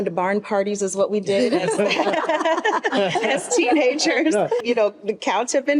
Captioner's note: group laughs